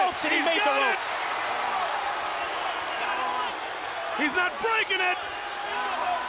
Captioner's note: applause